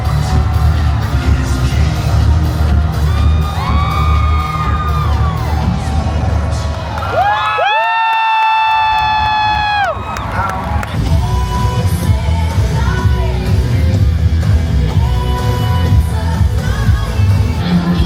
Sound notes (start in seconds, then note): 3.8 guests cheering; 7.4 guests cheer and clap; 17.8 robust music